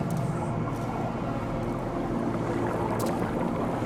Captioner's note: water bubbling